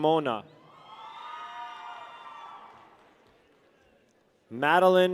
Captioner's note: people cheer